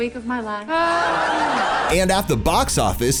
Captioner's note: laughter